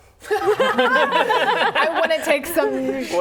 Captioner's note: laughing